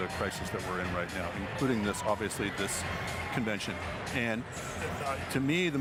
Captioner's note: laughter